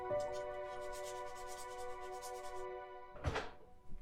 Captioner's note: sound of scrubbing a dish